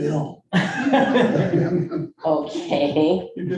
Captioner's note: board members laughing